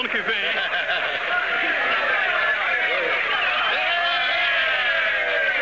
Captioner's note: cheering